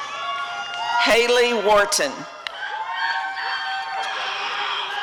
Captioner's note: applause and cheering